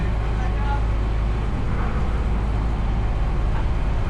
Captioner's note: wind